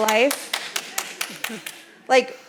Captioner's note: panel applauds